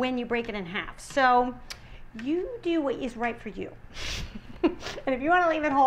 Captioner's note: laughs